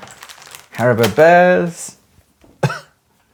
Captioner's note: plastic crinkles